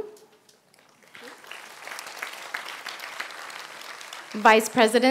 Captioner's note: applause